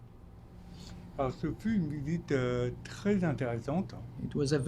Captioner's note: speaking French